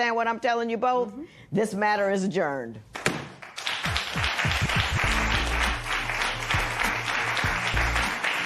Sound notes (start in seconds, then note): 3.1 gavel bangs; 3.3 applause